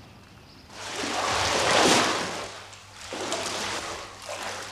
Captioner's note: water splashing